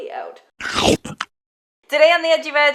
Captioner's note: chomp